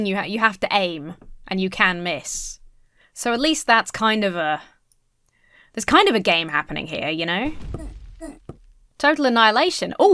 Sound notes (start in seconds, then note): 8.1 characters groaning